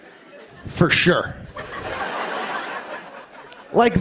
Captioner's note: laughter